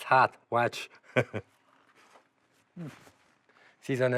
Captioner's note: chuckles